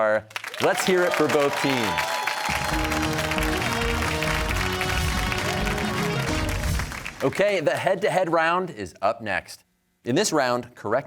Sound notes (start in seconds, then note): 2.8 cheers and applause